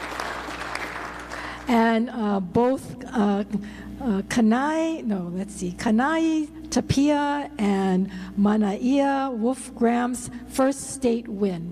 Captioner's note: applause